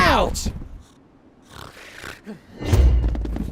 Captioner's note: snores, snorts